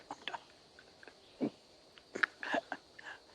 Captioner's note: swallows harshly